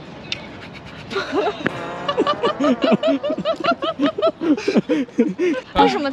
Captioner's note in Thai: เสียงหัวเราะ